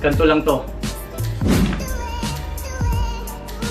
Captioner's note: whooosh